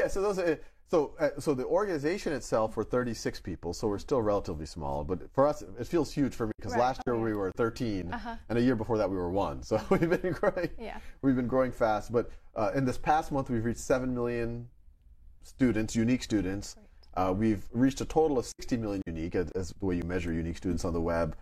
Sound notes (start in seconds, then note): 9.5 laughs